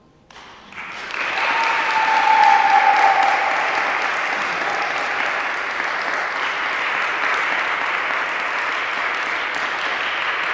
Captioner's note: applause